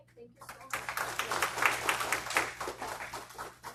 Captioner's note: applause